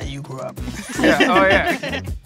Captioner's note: group laughing